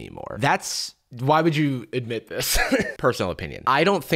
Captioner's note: laughs